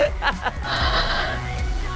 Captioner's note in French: soupirs